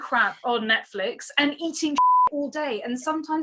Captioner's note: beep